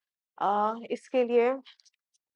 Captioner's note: in Urdu